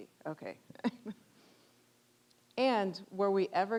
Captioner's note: chuckling